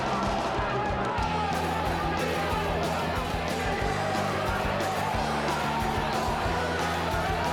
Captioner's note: crowd chattering; energetic rock music